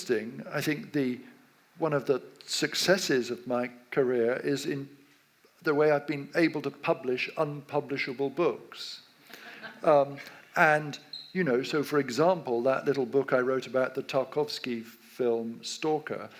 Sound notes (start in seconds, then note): 9.4 audience laughs